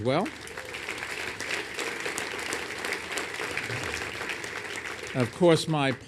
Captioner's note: applause